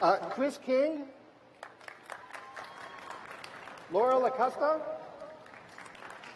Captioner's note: applause